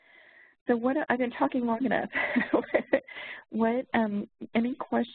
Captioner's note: laughs`